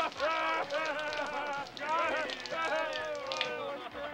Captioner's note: laughter